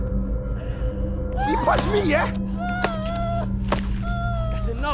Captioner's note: muliple stabbing sounds